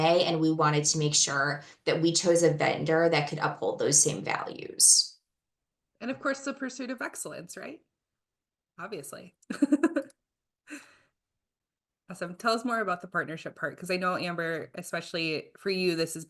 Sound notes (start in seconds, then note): 9.5 giggling